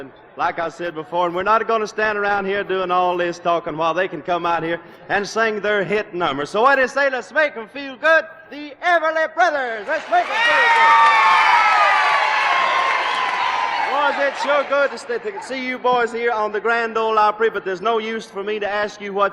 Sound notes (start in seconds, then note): 9.8 cheers and applause